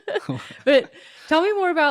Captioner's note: laughs